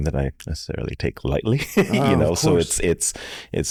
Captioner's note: chuckles